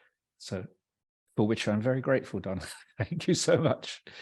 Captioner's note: laughs